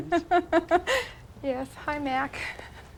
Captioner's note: chuckle